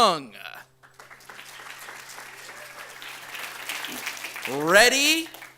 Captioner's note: audience applauds